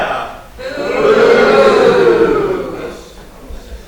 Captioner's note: audience "boos" La Squire